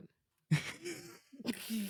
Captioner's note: laughing